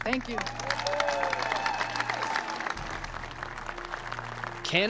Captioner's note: cheering and applause